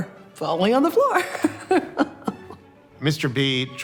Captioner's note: laughs